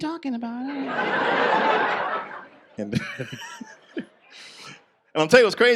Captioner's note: audience laughs